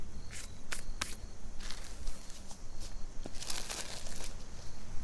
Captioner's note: insects chittering; hands rubbing; paper rustling